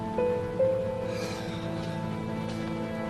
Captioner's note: sighs